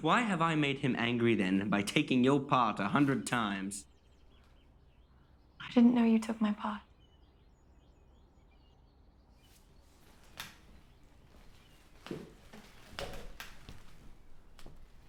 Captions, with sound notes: Why have I made him angry then by taking your part 100 times? - I didn't know you took my part. (birds chirping)